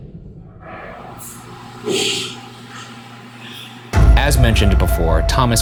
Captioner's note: ghostly voice whispers